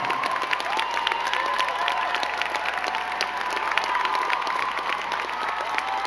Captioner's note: crowd cheering and clapping